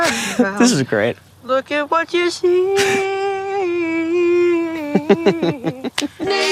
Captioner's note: Gaten laughs